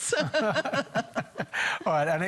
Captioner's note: laughs